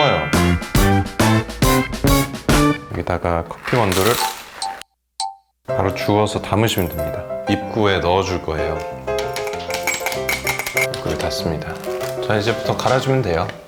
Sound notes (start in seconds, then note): 9.1 clink, clink